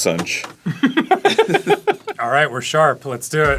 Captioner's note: laughing